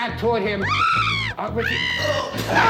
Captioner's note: bat screeching; grunts and screams